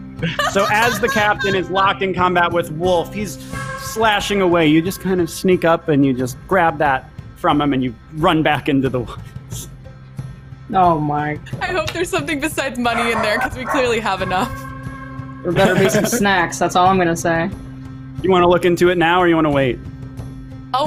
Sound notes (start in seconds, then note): 0.2 laughs; 15.5 laughs